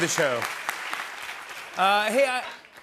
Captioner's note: applause